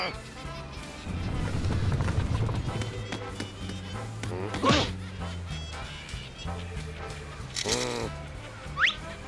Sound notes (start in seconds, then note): 4.1 grunts